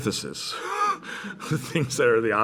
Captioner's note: laughter